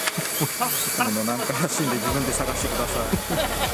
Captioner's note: laughs